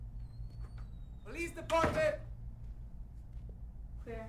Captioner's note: door clatters